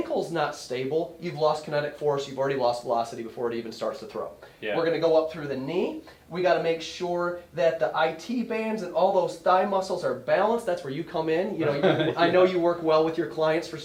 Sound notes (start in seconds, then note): 11.6 laughs